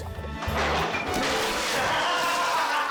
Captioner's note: door rattles; juice splashes